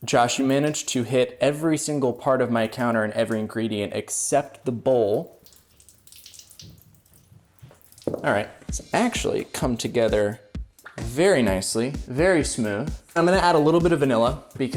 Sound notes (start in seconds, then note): 4.5 dripping loudly